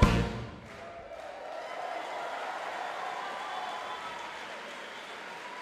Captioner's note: audience cheering